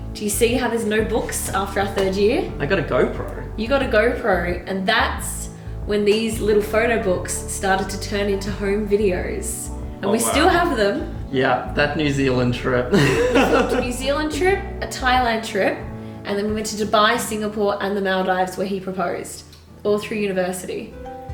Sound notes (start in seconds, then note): 12.9 laughing